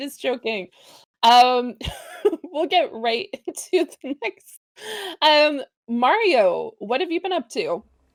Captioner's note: laughter